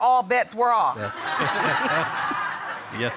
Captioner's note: all laughing